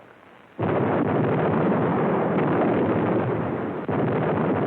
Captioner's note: explosions